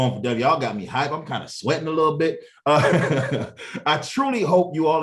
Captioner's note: brief laughter